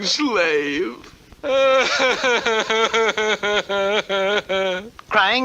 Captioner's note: King Cup cries hard